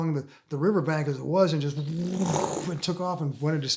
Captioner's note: imitating spaceship sounds